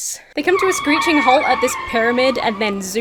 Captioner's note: tires screech